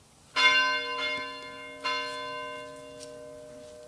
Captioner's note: bell tolls